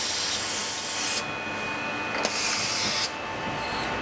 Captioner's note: machine noise